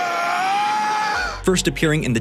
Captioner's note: screaming